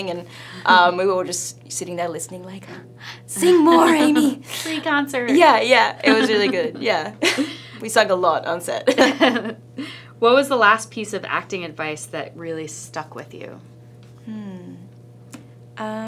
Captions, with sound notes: and we were just sitting there listening like, "Sing more, Amy!" (laughing) - Free concert! - Yeah, it was really good. Yeah, we sang a lot on set. (both laughing) - What was the last piece of acting advice that really stuck with you? - Hmm,